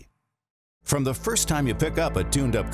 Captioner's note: voiceover